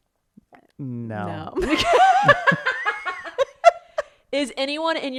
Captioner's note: laughing